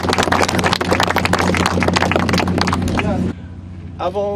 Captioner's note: applause